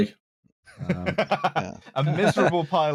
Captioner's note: laughter